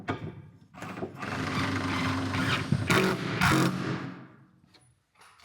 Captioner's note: drill whirring